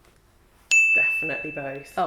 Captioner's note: bell dings